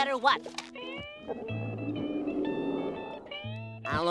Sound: stomach growling

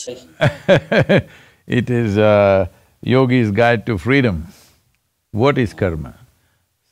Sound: laughs

